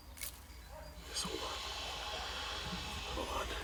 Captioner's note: whispering